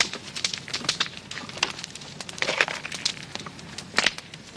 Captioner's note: fire crackling